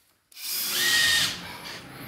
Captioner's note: drilling noises